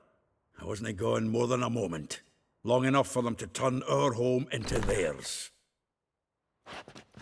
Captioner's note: door creaks